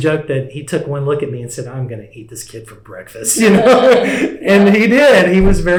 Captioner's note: laughter